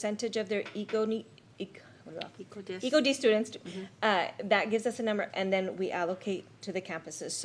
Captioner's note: clears throat